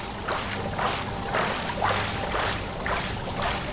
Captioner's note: rhythmic splashing